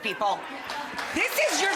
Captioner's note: audience laughs; audience cheers